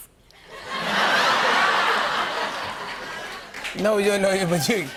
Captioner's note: laughter